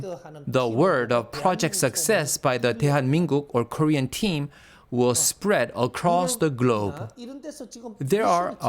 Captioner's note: Korean